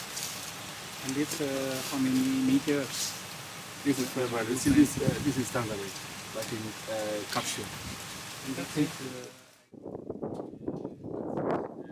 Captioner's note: wind noise